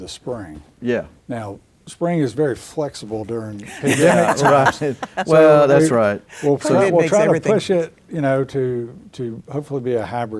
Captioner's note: laughter, talking over each other